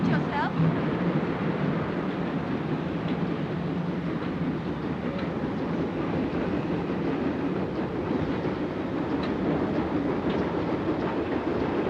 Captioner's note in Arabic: هدير القطار